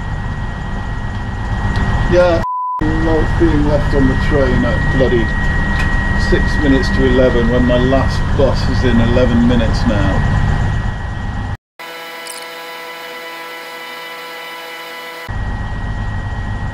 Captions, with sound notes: [train humming] Yeah, I ******* love being left on the train at bloody six minutes to 11:00 when my last bus is in 11 minutes now. [audio buzzing]